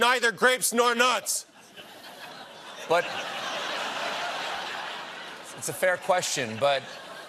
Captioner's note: laughter